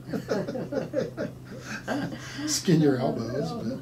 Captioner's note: laughing